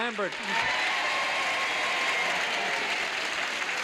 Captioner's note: applause